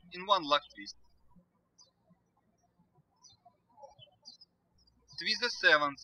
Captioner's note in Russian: птички щебечут